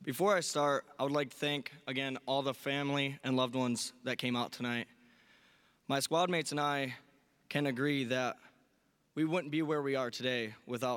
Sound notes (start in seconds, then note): none